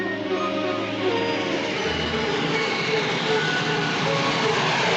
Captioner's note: train rumbling